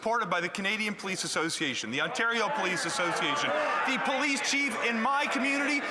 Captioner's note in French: voix de l'interprète